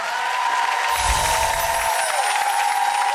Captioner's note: applause